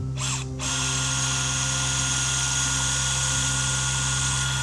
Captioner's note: machine buzzing